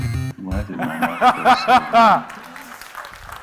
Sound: laughing

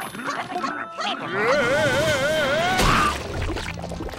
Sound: screaming

